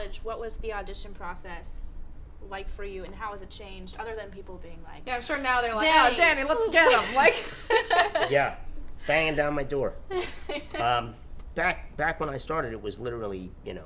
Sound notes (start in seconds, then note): 6.6 laughing